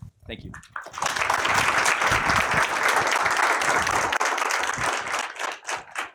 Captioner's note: applause